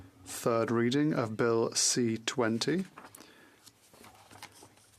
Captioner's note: speaking French